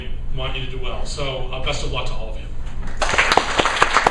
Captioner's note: applause